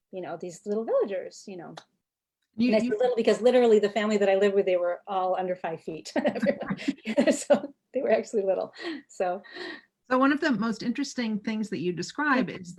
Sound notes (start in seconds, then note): 6.2 laughing